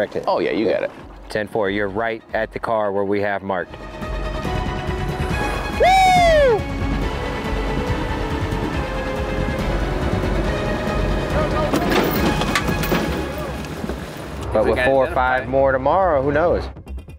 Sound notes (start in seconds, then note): 6.7 frantic orchestral music; 11.9 vehicle clattering